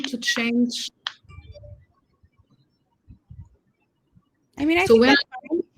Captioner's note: chatter